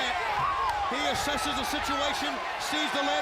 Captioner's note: audience cheering